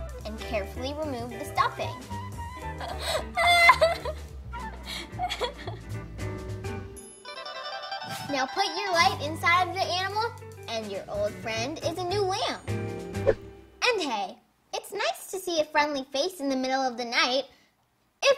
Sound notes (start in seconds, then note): 2.6 laughing